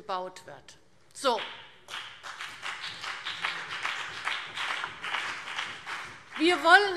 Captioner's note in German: Beifall BÜNDNIS 90/DIE GRÜNEN